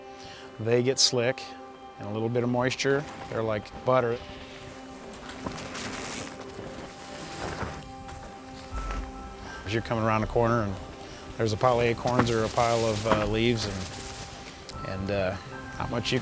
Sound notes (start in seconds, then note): 4.5 bikes riding past